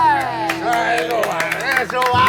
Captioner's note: applause